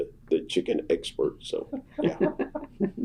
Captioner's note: laughter